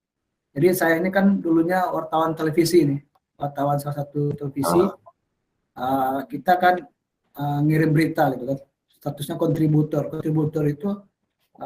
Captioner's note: non-english speech